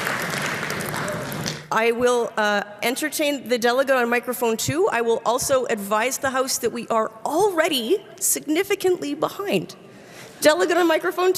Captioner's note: applause